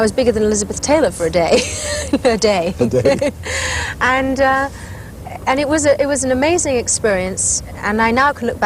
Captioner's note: laughs